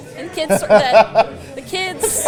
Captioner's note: Santa laughing